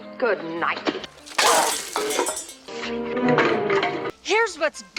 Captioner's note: flying kicked metal noise